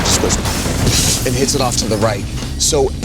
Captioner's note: imitates explosion booming